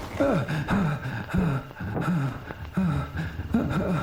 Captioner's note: Cooper gasping